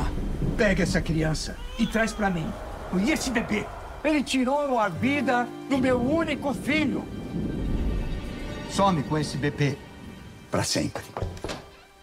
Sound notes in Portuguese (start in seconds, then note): 5.8 trovão; 6.9 música tensa